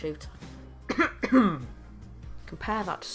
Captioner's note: cough